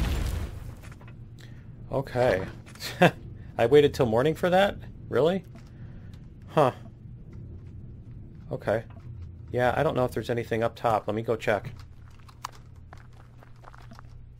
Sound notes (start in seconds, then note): 0.0 explosion; 2.0 laughs